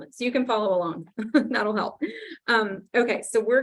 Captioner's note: laughs